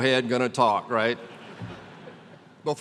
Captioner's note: laughter